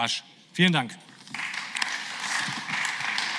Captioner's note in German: Beifall